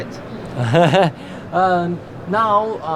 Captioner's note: nervous laughter